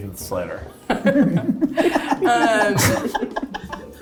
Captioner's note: cast laughing